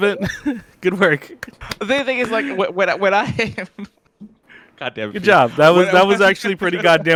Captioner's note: laughs